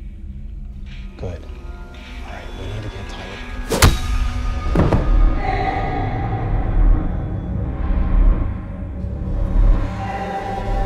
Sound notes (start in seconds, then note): 3.6 metal whacks; 4.6 Ben thuds; 6.2 tense music